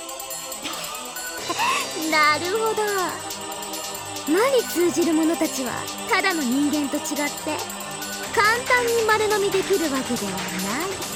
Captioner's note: giggle